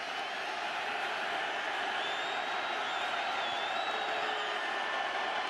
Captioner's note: crowd clamoring